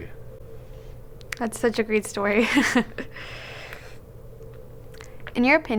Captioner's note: chuckling